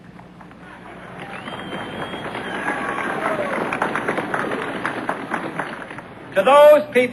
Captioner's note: applause